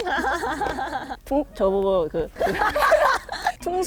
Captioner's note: instant laughter